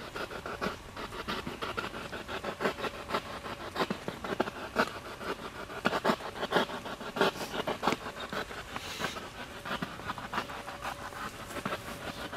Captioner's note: radio noise from the spirit box